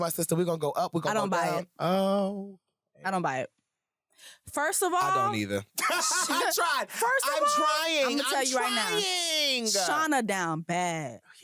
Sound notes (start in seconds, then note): 5.7 laughs